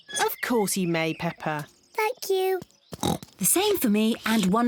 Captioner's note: oinks